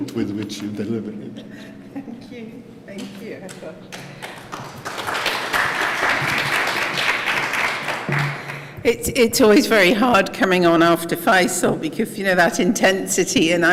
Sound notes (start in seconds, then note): 3.9 applause